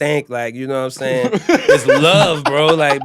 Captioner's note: laughing